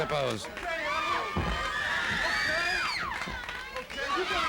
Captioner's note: crowd yelling